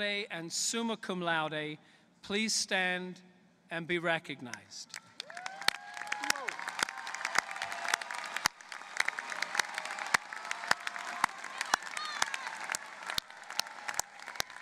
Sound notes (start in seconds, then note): 4.9 applause